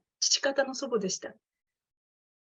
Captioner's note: speaking in Japanese